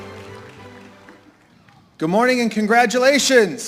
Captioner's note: applause